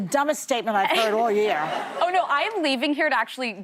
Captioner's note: laughter